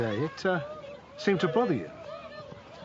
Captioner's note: murmuring